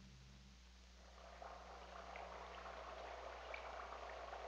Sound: liquid bubbling

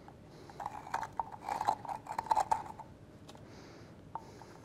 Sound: spoon scraping

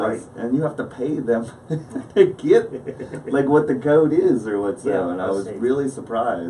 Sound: laughs

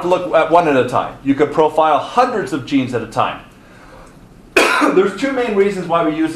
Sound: coughs

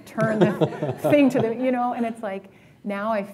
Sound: laughter

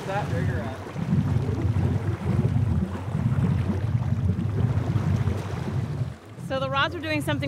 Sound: background chatter

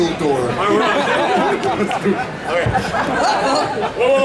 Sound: audience laughing

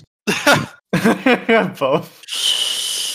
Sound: laughing

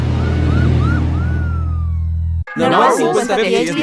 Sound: kids Cheering; siren!

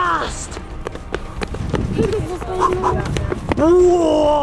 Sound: fast footsteps

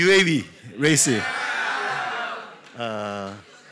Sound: cheering

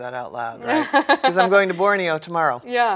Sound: laughs

